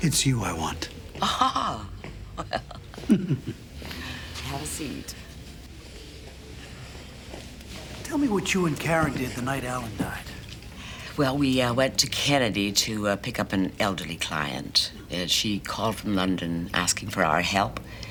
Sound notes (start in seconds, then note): 2.3 laughs